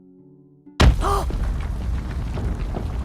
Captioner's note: gasp